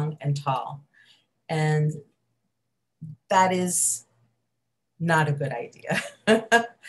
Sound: laughs

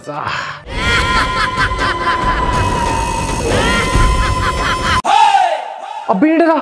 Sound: scary voice

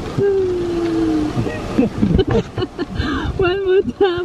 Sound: even more laughing

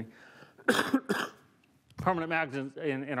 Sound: coughs

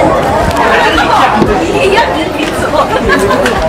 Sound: crowd talking loudly; woman laughs

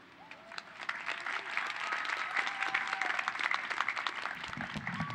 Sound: applause

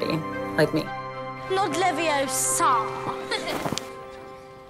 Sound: imitating Hermione

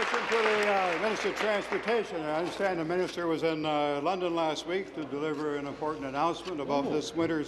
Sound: applause

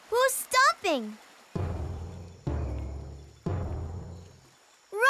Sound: stomping

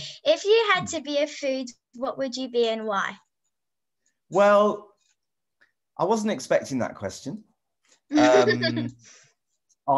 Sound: laughs

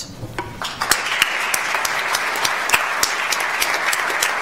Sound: audience applauds

